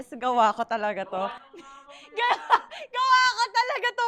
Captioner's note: laughs